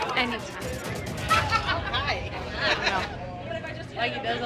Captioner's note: bar patrons chattering